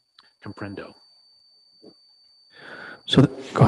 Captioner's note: speaking in foreign language